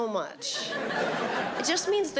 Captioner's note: audience laughing